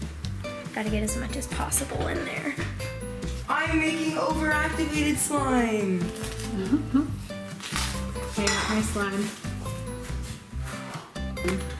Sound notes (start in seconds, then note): 6.5 giggling